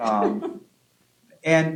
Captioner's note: laughs